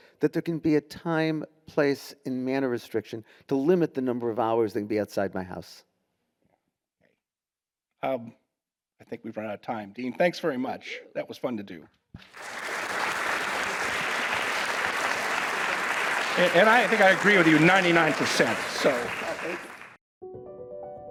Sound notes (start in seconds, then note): 12.2 audience applauding; 20.8 enlightening music